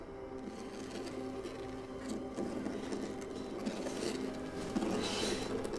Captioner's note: soft dramatic music; scraping